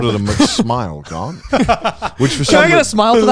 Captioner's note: laughs